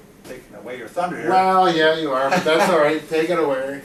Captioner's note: laughing